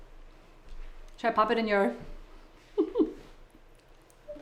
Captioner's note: laughing